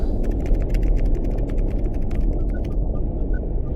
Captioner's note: keypad clacking